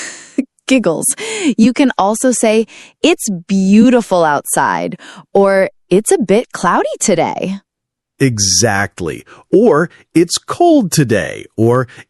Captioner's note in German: Kichern